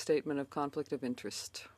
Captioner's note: speaking in French